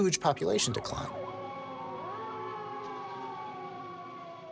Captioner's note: sirens blaring